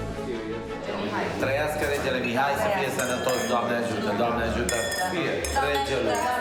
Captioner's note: speaking foreign language